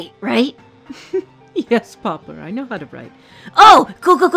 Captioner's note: chuckling